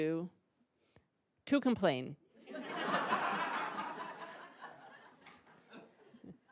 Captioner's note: attendees laughing